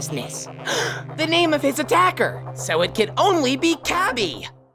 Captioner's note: gasp